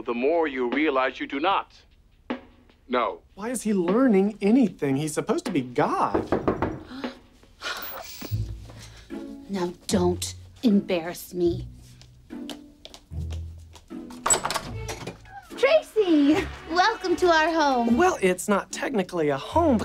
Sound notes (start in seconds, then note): 6.0 knock on door; 6.1 gasps